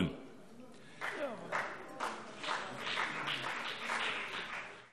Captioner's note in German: Beifall BÜNDNIS 90/DIE GRÜNEN und vereinzelt CDU